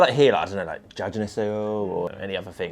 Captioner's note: Korean